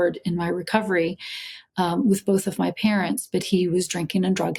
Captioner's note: none